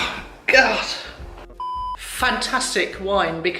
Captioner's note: beep